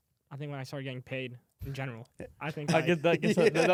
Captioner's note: laughs